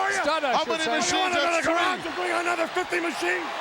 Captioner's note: commentators chattering